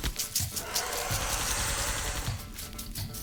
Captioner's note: black powder pouring; eggs cracking